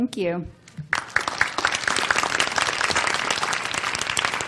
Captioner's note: audience applause